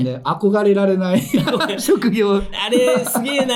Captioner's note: laughs